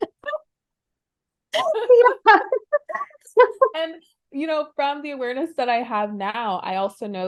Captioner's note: laughing